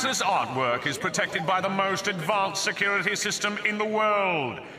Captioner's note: oohs and ahs